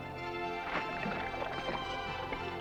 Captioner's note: light uplifting music; water splashing; light uplifting music